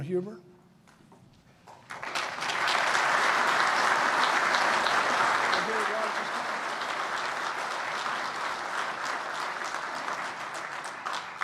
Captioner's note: applause